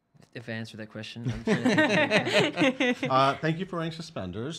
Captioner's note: laughing